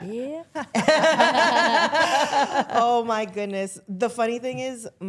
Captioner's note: all laughing